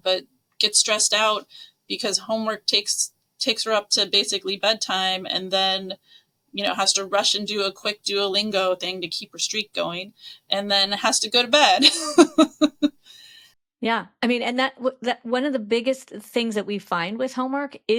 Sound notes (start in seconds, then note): 11.6 laughs